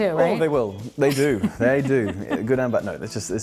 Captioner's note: laughing